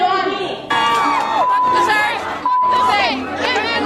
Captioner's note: crowd